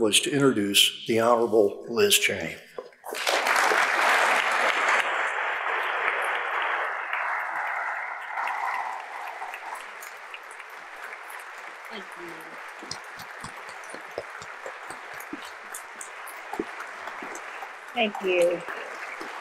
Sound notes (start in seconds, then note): 3.6 audience applauds; 13.6 audience continue to applaud